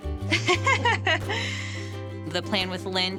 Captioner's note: laughing